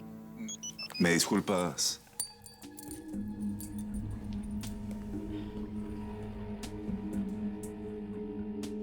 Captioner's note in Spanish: Suena el celular